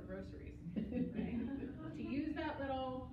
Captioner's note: laughter